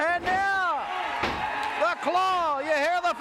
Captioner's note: crowd cheers